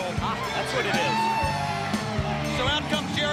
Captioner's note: attendees cheering